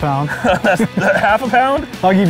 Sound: laughter

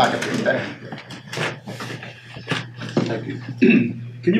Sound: rustling

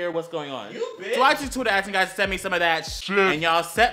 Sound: deeper voice

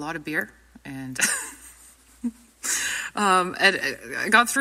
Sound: speaker laughs

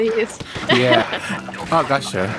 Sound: chuckles

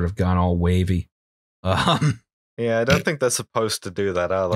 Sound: laughter

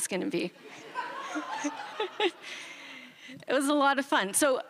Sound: chuckles

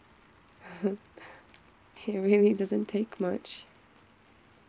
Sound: laughs

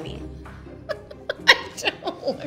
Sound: laughing

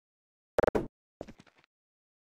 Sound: object Pickup SFX

